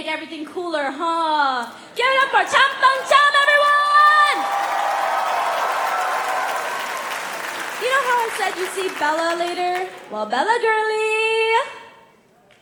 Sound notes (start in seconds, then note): 4.4 applause; 4.4 cheering